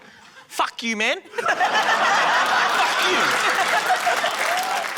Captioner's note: laughter, applause